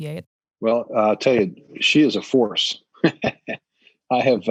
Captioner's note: laughs